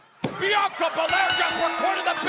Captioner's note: crowd cheering; bell ringing